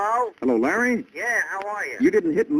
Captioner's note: on phone